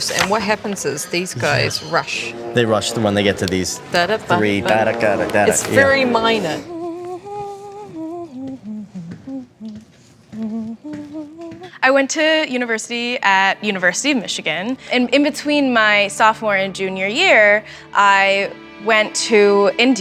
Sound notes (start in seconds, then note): 4.2 he hums; 5.4 she hums; 7.4 humming